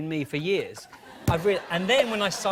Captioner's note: laughter